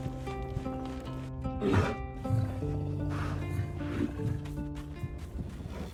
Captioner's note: bear Growls